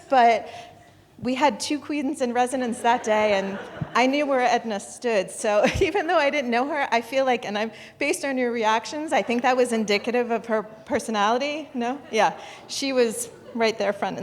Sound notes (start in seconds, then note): 2.8 audience laughing; 13.3 audience chuckling